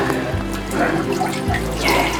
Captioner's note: peeing sounds